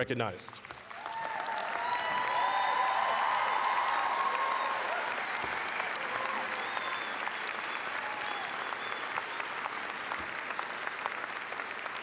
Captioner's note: applause, cheering